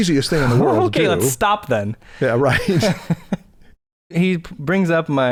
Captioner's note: chuckles